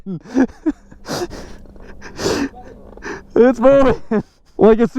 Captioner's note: laughing